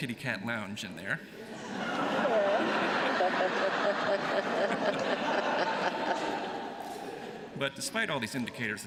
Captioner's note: laughter